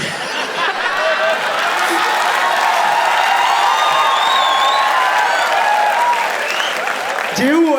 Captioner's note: crowd applauding